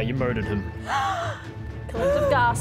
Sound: gasp

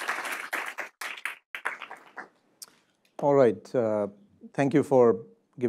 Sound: applause

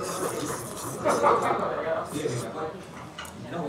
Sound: slurping

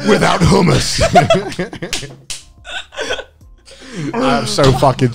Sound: everyone laughs

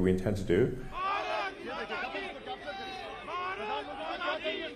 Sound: crowd yelling

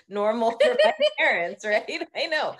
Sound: both laughing

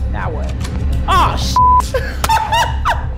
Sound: beeps; laughs

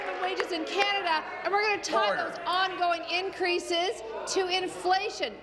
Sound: applause

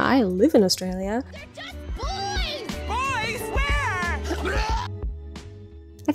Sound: vomits

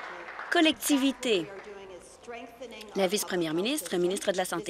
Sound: applause

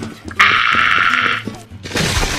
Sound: mangle noises

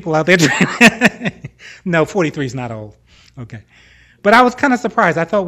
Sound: laughs

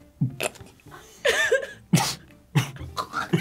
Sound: laughs; both laugh; laughs

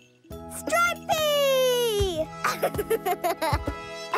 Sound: giggling

